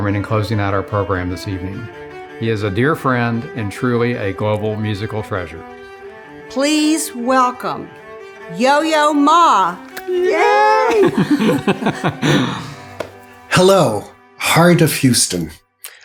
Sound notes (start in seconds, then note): 10.4 both laughing; 10.8 both giggling